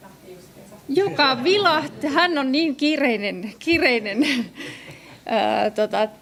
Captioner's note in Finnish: naurua